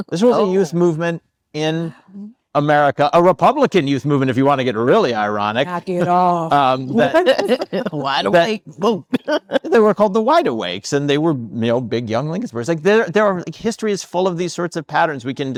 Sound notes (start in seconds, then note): 6.5 attendees laughing; 9.0 laughs